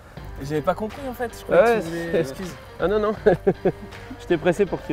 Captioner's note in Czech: mluví francouzsky